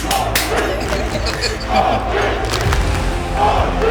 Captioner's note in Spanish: Risas